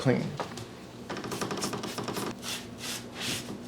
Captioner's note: cleaner squirts